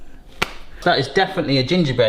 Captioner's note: hands slap